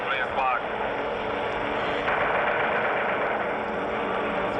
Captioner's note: planes roaring